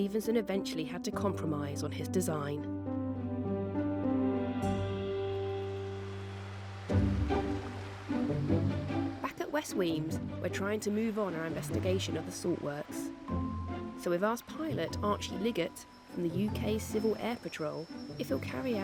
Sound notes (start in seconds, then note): 4.4 water splashing